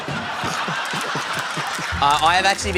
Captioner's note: laughter